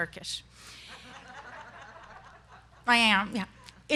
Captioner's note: students laughing